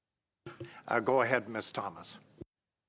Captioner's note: speaking French